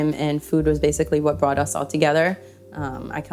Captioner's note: none